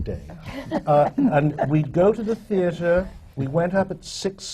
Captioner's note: laughter